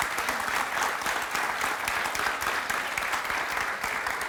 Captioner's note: audience applauding